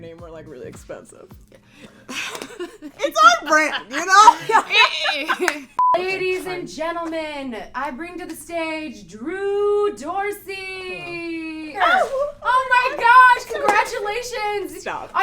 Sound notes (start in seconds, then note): 1.8 both laugh; 5.8 beep